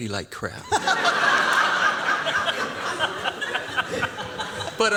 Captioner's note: laughter